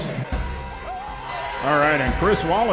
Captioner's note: crowd Cheering